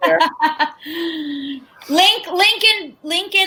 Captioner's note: laughs